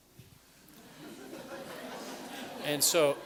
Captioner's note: laughter